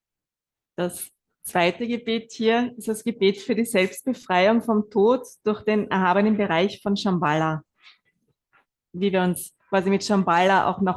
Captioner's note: German live translation